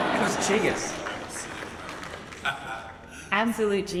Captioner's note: laughs